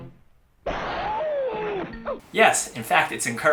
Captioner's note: screaming